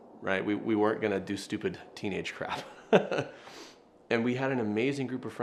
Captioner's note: laughs